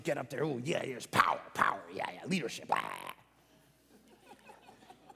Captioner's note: croaking; congregation light laughing